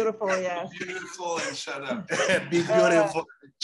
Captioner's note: laughs; male voice off camera